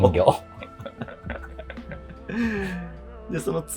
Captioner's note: laughing